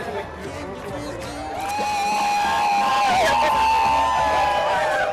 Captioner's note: hustle and bustle